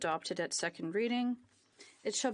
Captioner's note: speaking in French